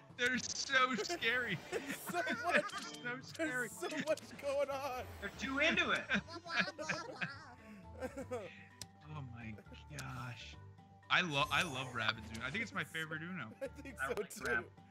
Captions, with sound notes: >> They're so scary. >> There's so much going on. >> You're too into it. >> [LAUGH] >> My gosh. >> I love Rabbids Uno. I think it's my favorite Uno.